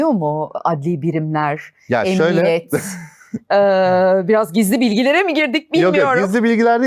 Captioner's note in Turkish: kahkaha